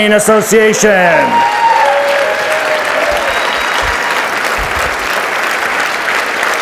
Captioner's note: audience cheers and applauds